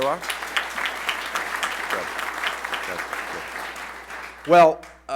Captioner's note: applause